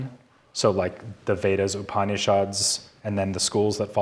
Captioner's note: speaking in foreign language